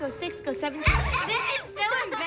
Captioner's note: laughter